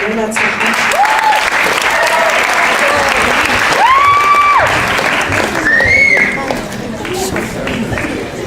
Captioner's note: crowd applauding and cheering